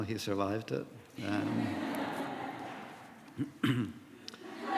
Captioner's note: laughter